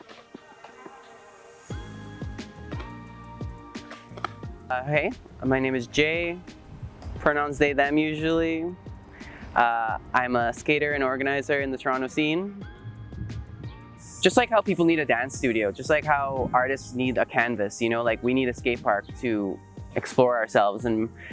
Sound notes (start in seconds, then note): 0.0 skateboarding sounds; 0.9 mellow electronic music